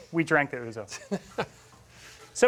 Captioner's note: laughs